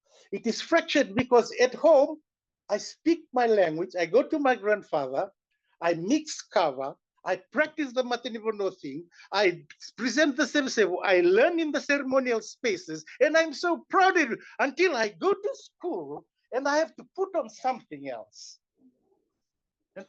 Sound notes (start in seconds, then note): 8.1 non-english